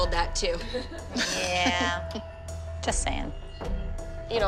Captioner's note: laughing